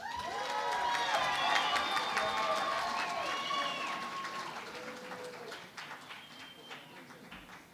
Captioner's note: cheering and Applause